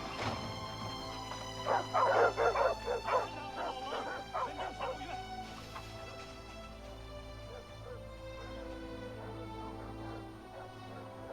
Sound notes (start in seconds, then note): 1.9 dogs barking; 3.5 man speaking in foreign language